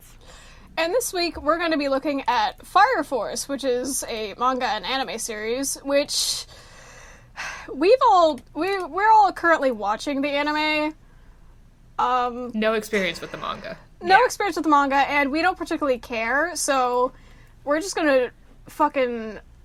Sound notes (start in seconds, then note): 6.5 inhales, exhales